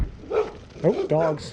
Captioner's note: dogs barking